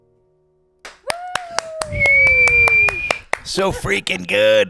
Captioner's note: claps and whistles